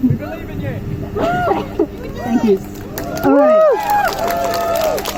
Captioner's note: crowd Cheers